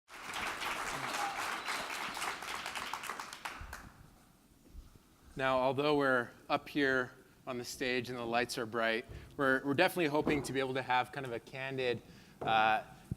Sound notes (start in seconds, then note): 0.1 clapping